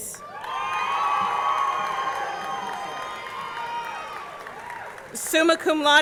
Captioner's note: audience clapping; audience cheering